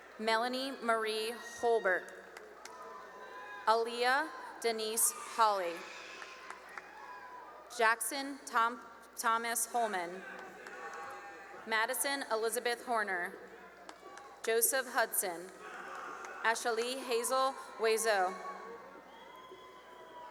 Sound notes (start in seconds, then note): 1.9 cheering and applause; 9.6 cheering and applause; 13.1 cheering and applause; 15.6 cheering; 18.9 cheering